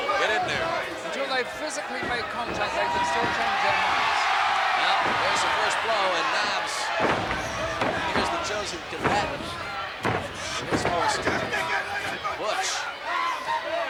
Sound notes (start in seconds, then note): 0.4 footsteps plodding; 3.9 blows thudding; 3.9 footsteps plodding; 9.4 body thudding